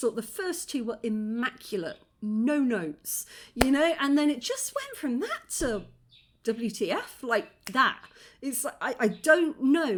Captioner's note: click